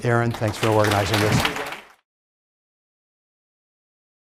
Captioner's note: applause